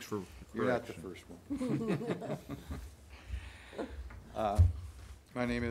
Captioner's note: aldermen chuckling